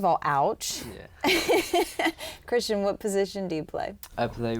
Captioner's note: laughs